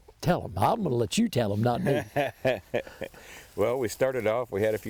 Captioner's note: chuckling